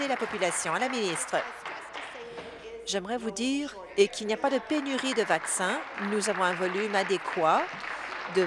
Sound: applause; applause

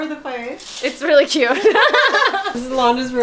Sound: laughing

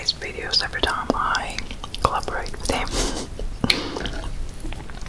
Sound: laughing

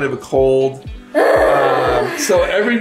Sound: sighs in exasperation

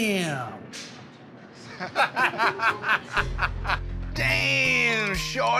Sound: laughter

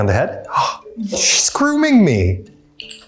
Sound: gasps

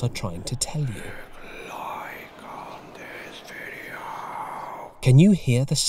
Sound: creepy voices

